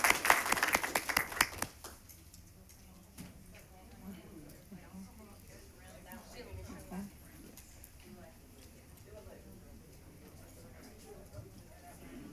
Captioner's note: applause